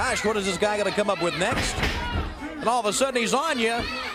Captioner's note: crowd chatter